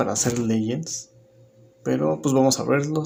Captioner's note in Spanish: Silencio